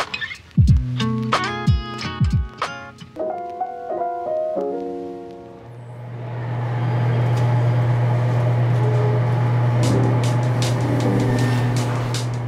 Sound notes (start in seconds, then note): 5.9 machinery whirring